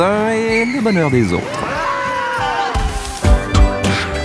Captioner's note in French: cris de joie